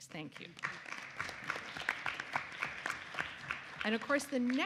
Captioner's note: audience applauds